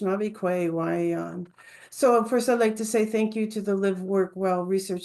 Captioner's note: speaking English